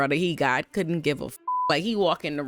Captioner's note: beep